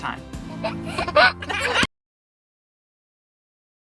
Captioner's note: baby laughing